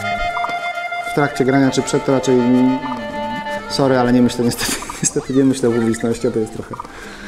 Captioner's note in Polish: śmiech